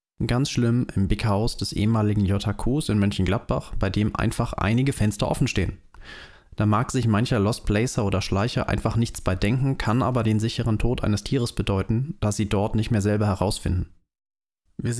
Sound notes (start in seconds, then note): 5.9 deep breath